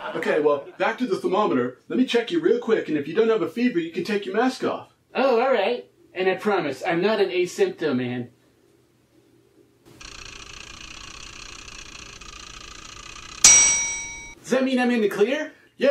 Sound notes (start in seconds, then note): 10.1 thermometer sound; 12.6 thermometer dings like an old egg timer